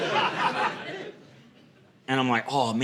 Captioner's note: audience laughing